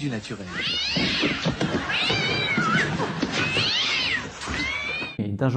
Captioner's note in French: Meooow